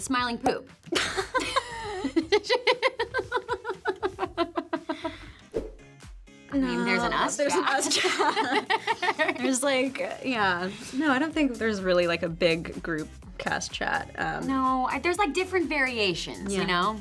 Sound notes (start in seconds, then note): 0.9 both laugh; 5.5 graphics swoosh